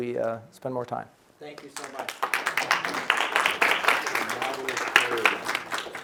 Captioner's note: audience applauding